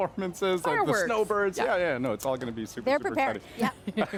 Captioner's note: laughter